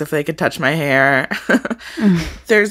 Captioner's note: chuckles